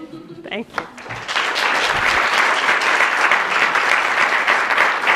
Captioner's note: applause